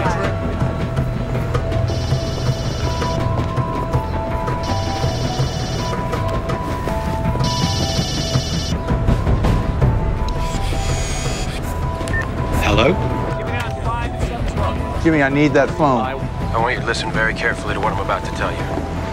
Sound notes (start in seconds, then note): 1.9 phone ringing sound